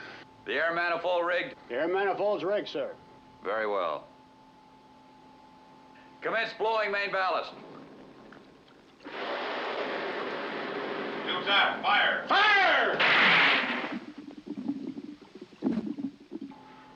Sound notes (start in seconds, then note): 13.0 weapon fires